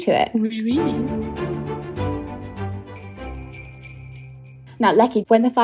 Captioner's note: theme music; bell ringing